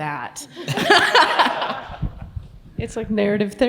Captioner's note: laughs